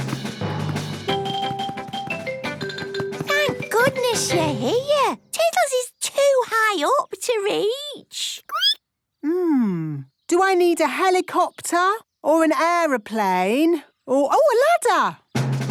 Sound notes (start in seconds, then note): 0.0 rapid music; 7.9 squeaking